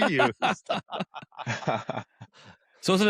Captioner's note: laughter